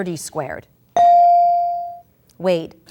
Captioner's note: ding